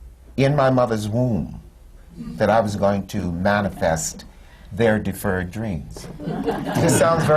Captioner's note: laughter